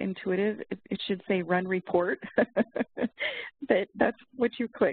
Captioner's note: laughs